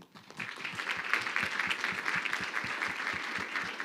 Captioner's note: crowd clapping